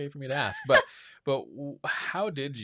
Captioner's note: laughs